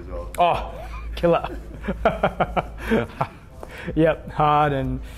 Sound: laughs

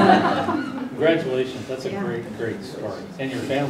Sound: laugh

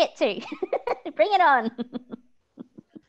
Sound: laughs

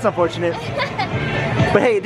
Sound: laughs

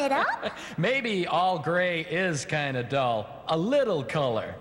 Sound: laughing

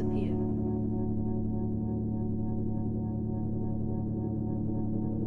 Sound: electronic humming

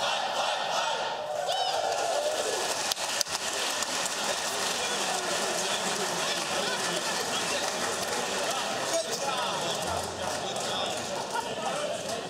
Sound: applause

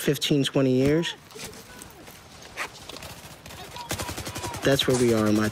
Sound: sounds of war

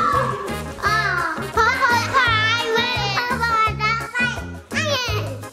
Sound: children chattering

